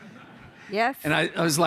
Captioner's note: audience laughter